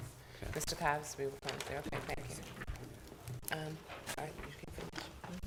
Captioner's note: board discussing quietly